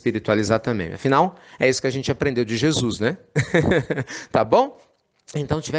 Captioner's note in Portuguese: Risos